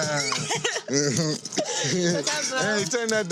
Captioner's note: laughs; mmhmms